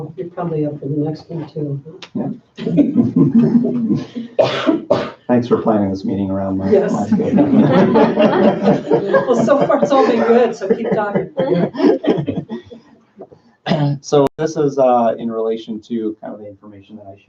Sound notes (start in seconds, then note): 2.6 laughs; 8.2 all laugh